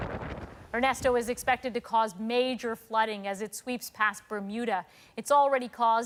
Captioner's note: wind